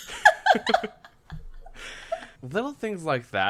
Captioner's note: laughs